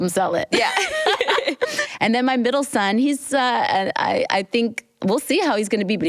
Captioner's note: laughs